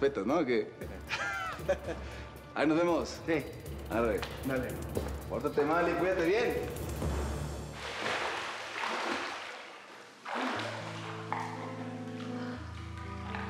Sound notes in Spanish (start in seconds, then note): 0.9 risas